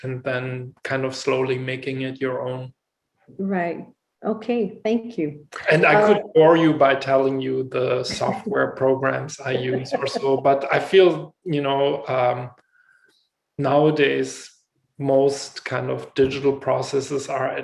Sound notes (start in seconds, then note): 9.3 laughs